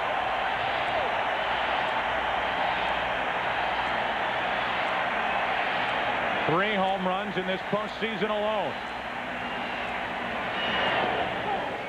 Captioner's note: cheering